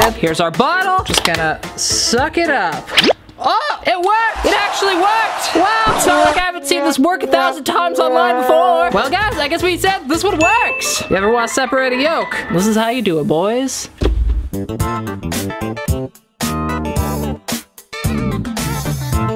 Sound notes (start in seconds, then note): 2.8 slurp; 14.0 funky music